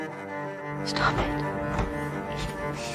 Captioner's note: voiceover